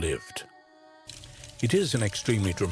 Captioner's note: fire crackling